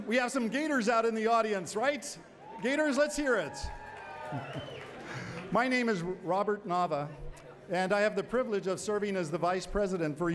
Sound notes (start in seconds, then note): 2.4 cheering and whistling